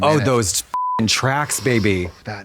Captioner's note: beep